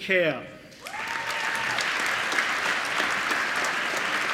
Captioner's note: applause